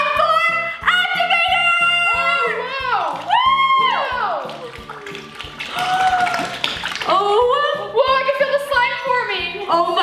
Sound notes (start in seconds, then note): 3.0 cheers; 6.3 gasps